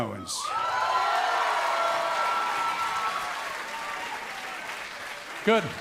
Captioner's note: cheers & applause